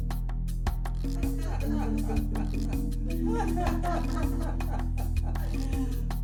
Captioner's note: laughing